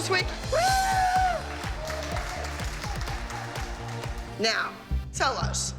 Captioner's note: cheering and applause